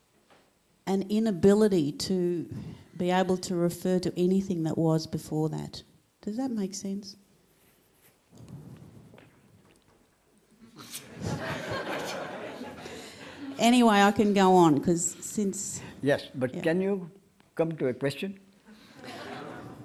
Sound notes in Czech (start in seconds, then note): 11.0 smích